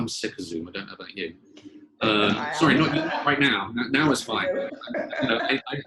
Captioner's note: laughter